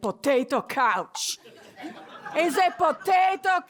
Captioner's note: laughter